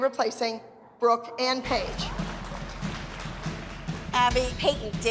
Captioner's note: clapping